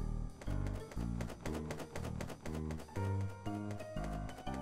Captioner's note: stamp clacks; wings flapping